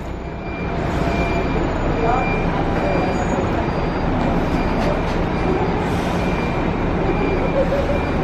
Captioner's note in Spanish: sonido ambiente del bus 'TurBus 2556'